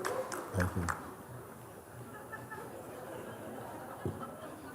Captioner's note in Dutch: gelach